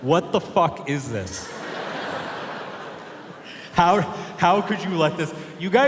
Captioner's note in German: Publikum lacht